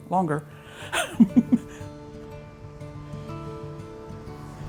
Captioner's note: chuckles; light music continues